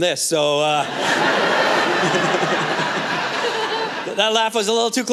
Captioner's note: laughter